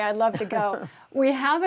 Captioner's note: laughter